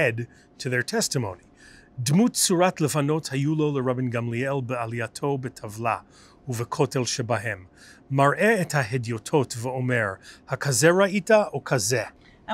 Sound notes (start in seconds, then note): 1.6 Hebrew